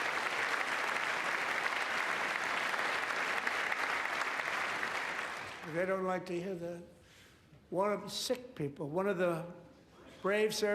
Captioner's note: applause